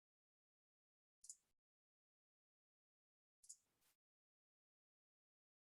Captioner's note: mouse clicking continues